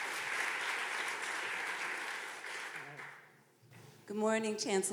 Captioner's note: audience clapping